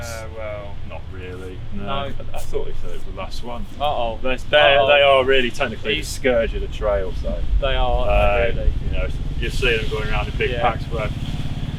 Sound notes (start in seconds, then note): 1.6 indistinct chatter